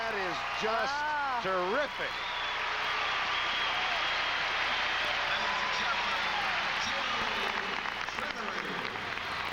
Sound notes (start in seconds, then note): 2.5 cheers and applause